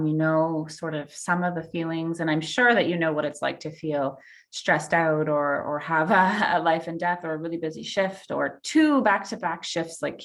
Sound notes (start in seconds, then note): none